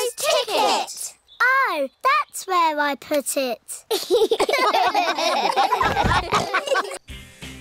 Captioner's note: all laugh